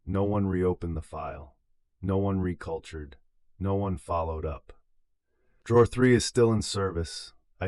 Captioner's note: exhale